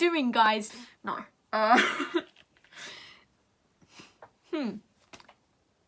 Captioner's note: trying to be calm breathing